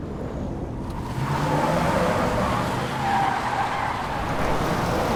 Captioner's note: tires screech